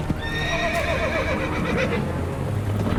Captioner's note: horse whinnies